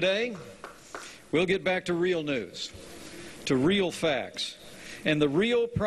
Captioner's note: light applause